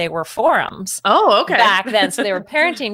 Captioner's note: laughs